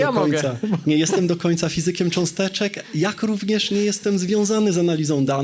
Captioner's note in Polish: śmiech